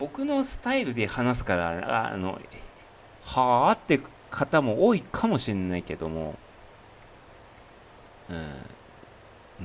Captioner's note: snort